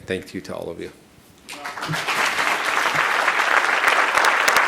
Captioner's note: audience applauding